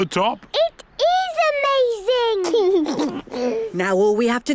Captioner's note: George giggles